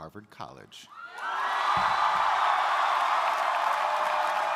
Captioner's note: crowd cheering